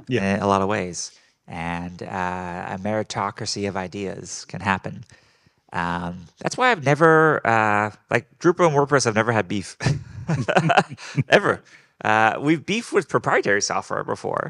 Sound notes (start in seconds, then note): 9.8 laughing